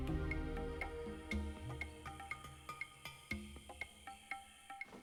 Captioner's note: insects Buzzing, Chirping